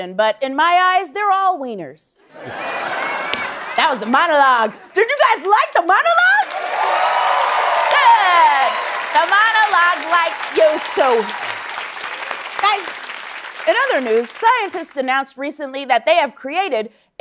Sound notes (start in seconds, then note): 6.9 applause